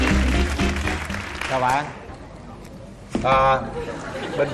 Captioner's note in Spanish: Aplaudir